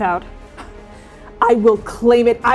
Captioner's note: scoffing